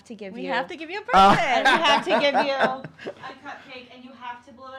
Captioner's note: laughing